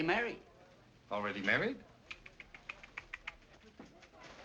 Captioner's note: clicks tongue